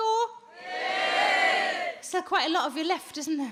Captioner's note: audience cheers